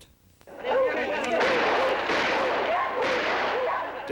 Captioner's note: dogs barking